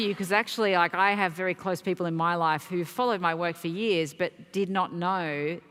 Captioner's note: applause